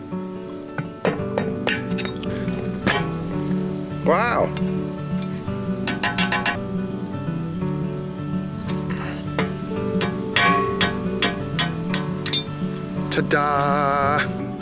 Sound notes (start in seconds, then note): 1.3 raps echoing; 5.8 metal clinking; 9.9 metal tapping